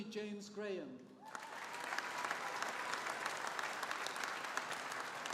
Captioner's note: audience applauding